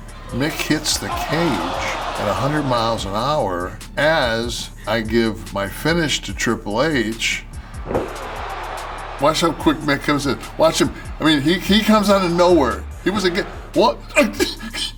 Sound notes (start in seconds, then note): 7.8 applause